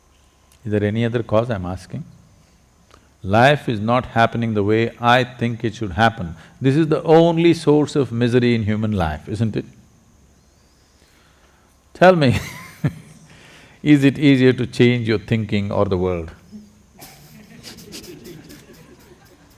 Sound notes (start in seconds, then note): 12.4 laughs; 17.0 laughter